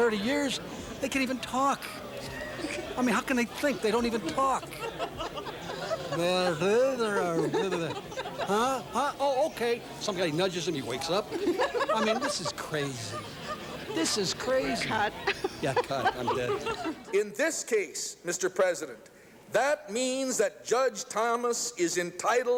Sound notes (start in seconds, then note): 0.0 laughing; 6.2 laughing; 6.9 imitating gibberish